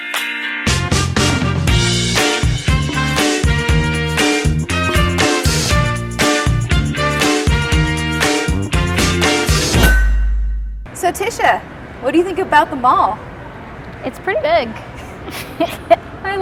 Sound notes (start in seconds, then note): 9.8 bell clangs; 14.8 laughs